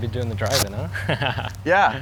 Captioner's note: laughs